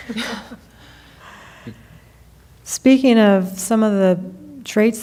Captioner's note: laughing